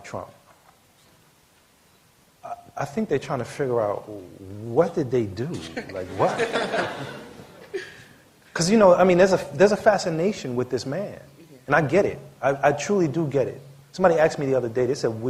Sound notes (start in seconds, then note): 5.6 laughter